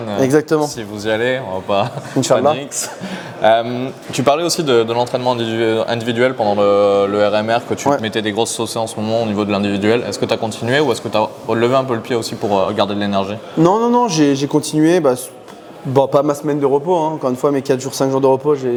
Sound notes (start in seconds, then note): 1.7 laughs